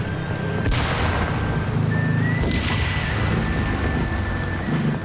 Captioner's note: motorcycle backfiring